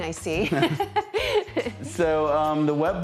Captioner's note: laughing